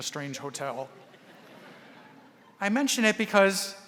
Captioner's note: audience laughing